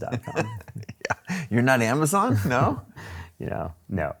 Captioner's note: laughs